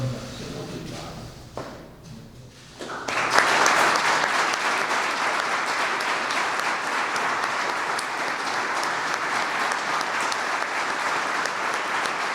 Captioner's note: applause